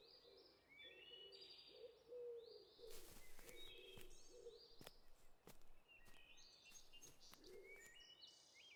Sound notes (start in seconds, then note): 2.5 birds chirping